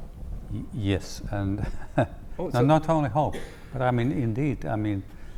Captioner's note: laugh